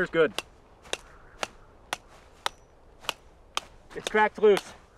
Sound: hammer tapping

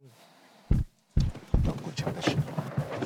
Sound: banging sound

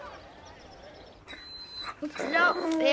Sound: dog whines

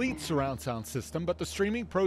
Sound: sound from TV

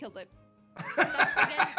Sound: laughs

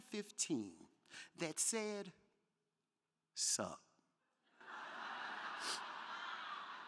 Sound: crowd laughing

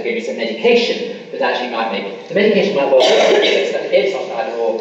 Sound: coughing masks speaker

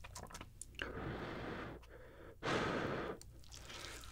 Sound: blowing

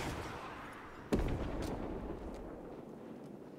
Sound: explosion

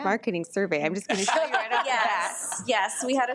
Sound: audience laughing

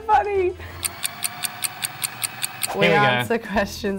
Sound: clock ticking fast

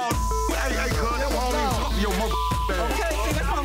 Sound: beep

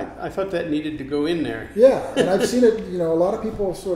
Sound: laughs

